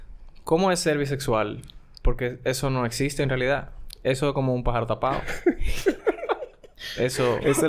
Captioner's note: laughs